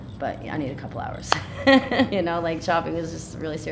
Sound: laughing

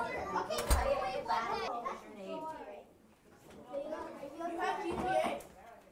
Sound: children talking happily and busily

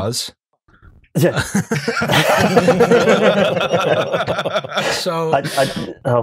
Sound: laughter

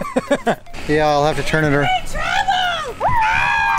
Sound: random person yelling; screams

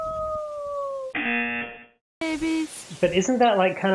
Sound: buzzer rings

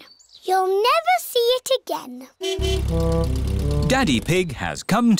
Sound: horn honking

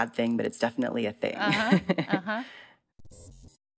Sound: laughter

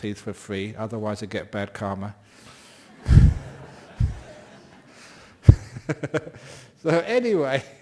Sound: laughs

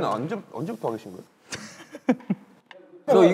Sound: laughter

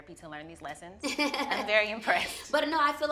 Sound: laughs

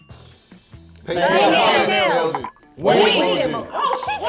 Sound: bell dings

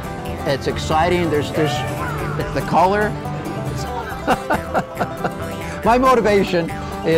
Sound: laughs

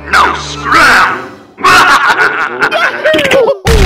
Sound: evil Laughter

